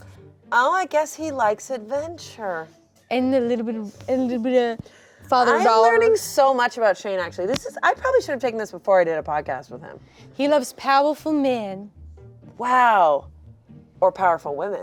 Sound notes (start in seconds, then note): none